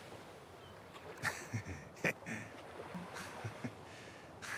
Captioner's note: laughs